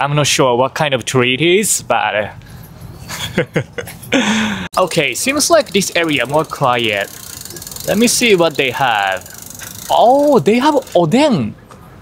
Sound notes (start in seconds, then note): 3.0 chuckles